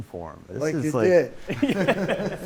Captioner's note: laughter